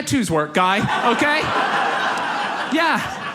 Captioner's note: audience laughs